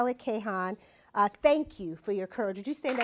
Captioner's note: applause